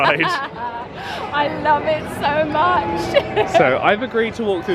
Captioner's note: laughs; laughs